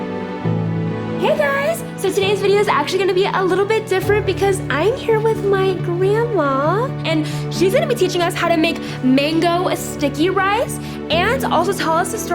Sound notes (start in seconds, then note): none